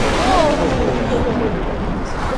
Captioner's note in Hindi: पास में बिजली गिरने की आवाज